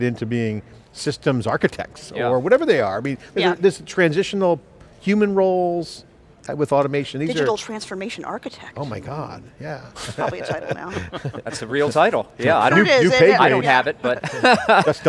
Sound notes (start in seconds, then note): 9.9 laughs; 14.5 laughs